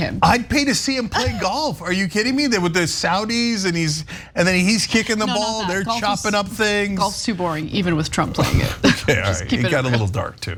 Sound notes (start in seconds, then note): 8.4 laugh